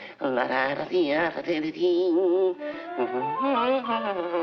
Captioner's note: Bugs Bunny vocalizing